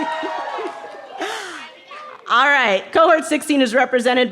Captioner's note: cheering